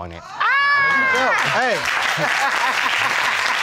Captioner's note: exclaims